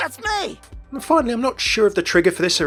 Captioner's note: voiceover